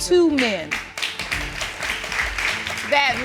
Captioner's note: audience applauding